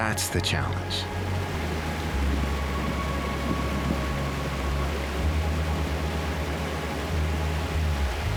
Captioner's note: rushing water